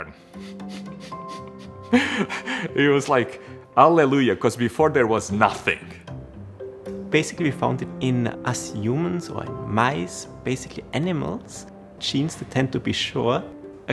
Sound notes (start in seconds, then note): 0.3 laughing